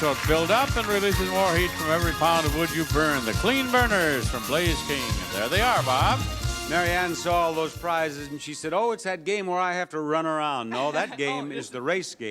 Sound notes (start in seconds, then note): 10.7 laughs